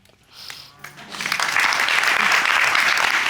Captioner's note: audience applauds